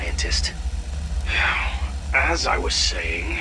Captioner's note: sighs